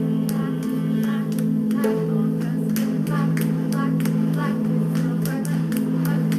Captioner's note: handclaps